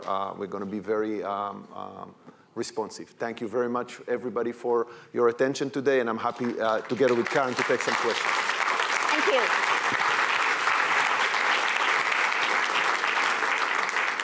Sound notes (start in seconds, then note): 8.4 applause; 10.5 applause